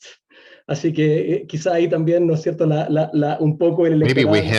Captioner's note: speaking in foreign language